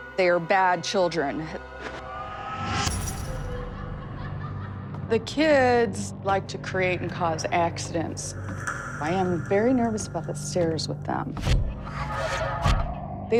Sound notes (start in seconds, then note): 3.5 distant laughter